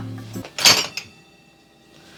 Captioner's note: knife bangs